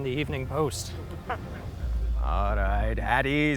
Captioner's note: rangers laugh